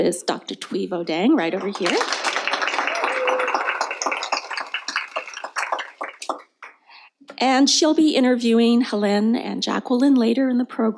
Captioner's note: applause